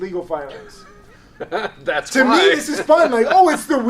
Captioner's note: laughs